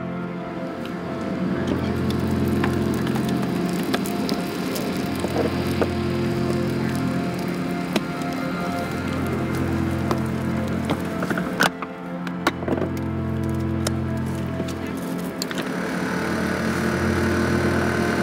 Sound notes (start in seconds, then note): 1.7 metal crunching; 2.6 machinery whirring